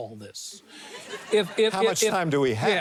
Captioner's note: audience laughs